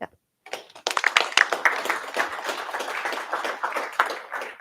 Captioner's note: applause